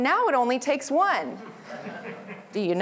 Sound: laughter

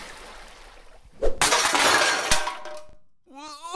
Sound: paint can clattering inside the portal

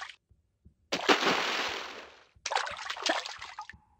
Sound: big splash

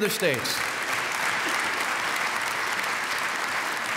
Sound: applause

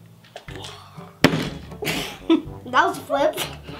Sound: bottle landing

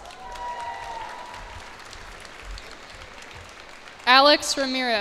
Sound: cheers and applause

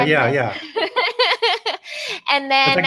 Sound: laughs

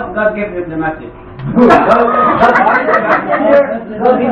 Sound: laughter

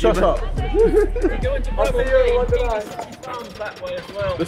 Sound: all clattering

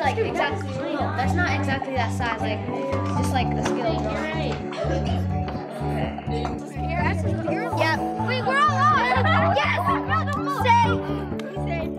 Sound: student chatter

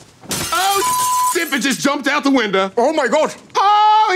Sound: beeping

